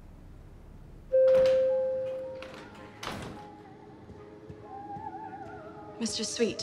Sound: elevator chimes

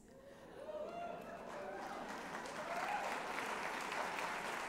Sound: cheering

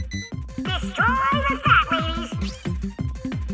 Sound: high-pitched voice

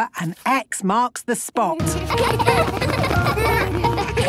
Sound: laughter

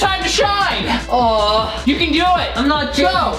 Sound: groans

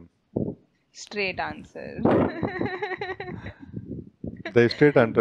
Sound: laughing

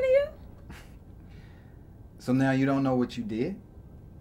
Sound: scoffs

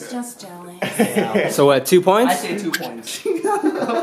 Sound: laughter

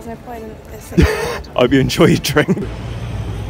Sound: laughing

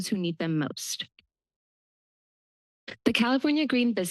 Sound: pause

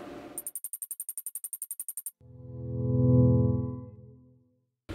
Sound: beeping, musical chord

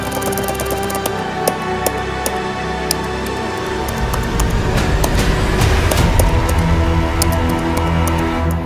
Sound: slow tapping

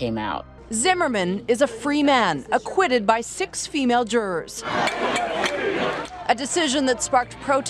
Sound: protest sounds

